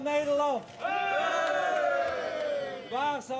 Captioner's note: cheering